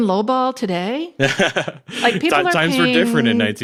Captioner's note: laughs